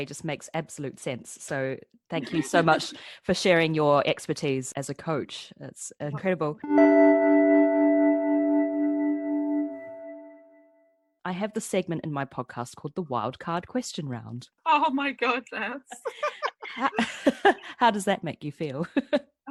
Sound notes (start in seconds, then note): 16.6 laughs